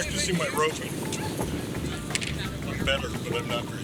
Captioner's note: cackling in background